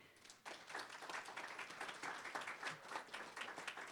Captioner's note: applause